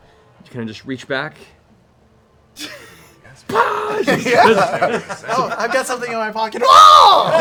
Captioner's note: yells; laughter